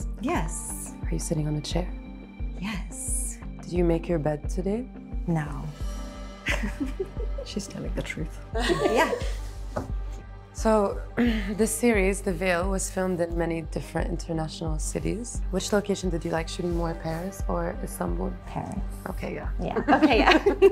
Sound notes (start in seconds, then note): 6.5 laughs; 8.6 laughter